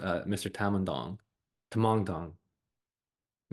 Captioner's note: changes emphasis